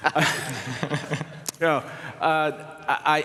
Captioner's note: laughter